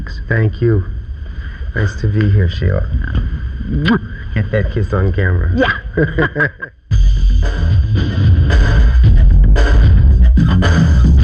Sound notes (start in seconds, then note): 3.8 kiss smacking; 6.8 funky music